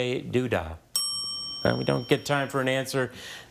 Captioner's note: timer dings